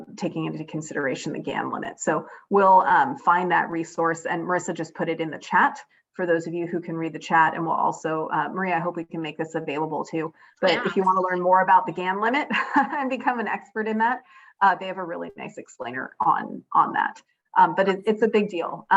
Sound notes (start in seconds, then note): 10.6 laughs